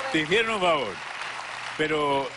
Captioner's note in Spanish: Aplausos; Exclamaciones